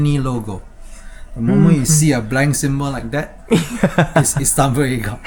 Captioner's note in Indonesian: tertawa